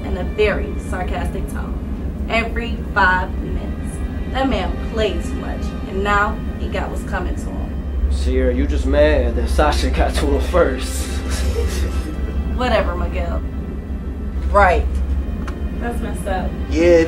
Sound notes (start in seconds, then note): 11.1 all laugh